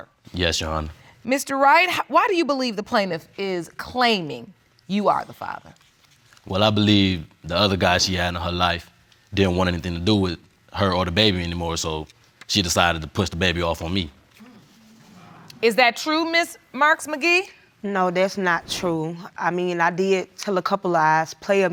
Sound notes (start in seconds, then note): 13.6 audience muttering